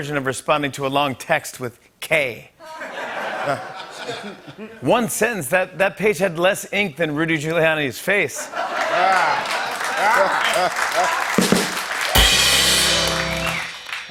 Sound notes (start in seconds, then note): 2.6 laughter; 8.4 laughter and applause; 11.2 rim shot